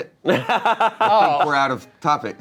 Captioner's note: laughing